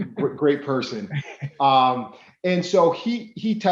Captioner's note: laughing